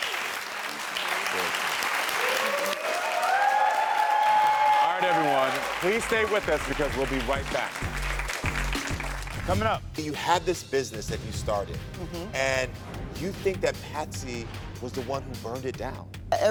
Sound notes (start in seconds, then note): 0.0 audience clapping and cheering; 8.2 audience clapping; 8.2 upbeat music